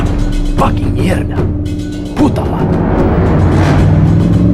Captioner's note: Spanish